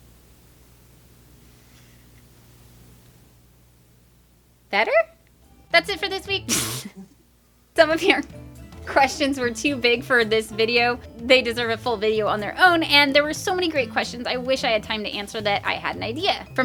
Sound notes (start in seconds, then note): 6.4 laughs